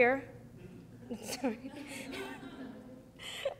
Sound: laughing

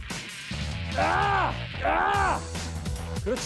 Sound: grunting

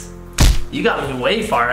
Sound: thump

